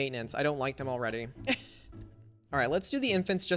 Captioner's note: chuckles